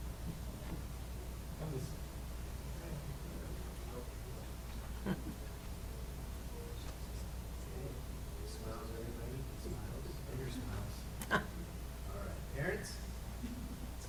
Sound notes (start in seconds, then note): 2.4 background chatter